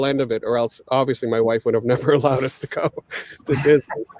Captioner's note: chuckles